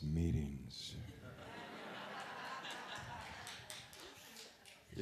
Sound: laughter

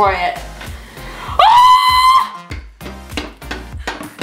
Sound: yells

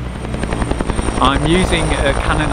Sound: helicopter blades whirring

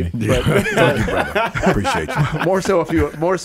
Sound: Emmanuel laughing

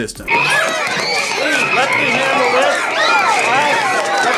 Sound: children screaming

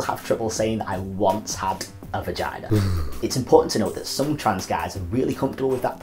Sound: shudder

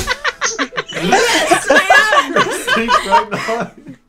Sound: laughter; Cynder voice; laughter

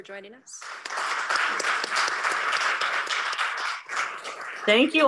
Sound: applause

